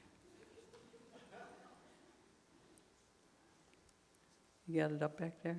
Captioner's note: audience chuckling